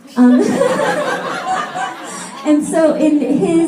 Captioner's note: laughter